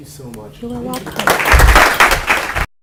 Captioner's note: applause